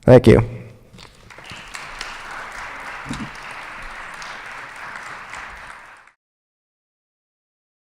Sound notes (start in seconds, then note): 1.0 applause